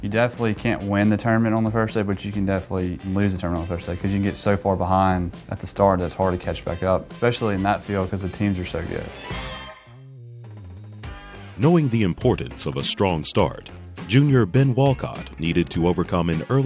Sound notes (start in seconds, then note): 11.9 voiceover